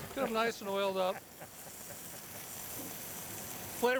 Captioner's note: chuckling